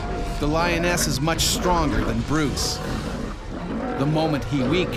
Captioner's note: voiceover